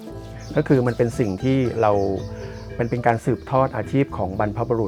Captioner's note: speaking foreign language